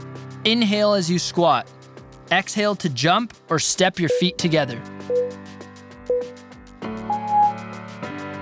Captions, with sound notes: Inhale as you squat, exhale to jump or step your feet together. (timer beeping)